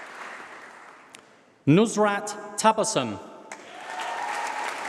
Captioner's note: applause